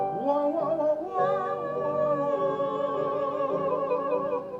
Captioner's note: all vocalizing